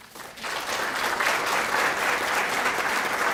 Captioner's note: clapping